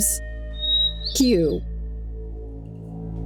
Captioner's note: whistle